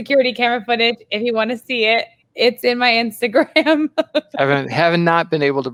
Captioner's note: laughs